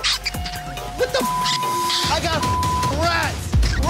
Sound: beeps

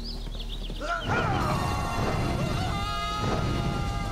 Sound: screams

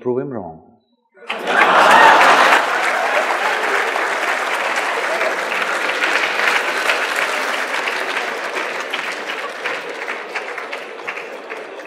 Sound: laughter/Applause

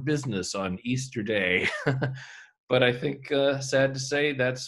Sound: laughs

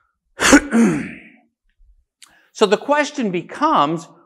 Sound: coughing

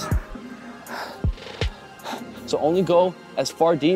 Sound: exhales

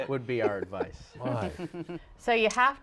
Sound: laughter

